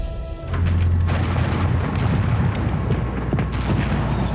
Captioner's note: cannonfire blasting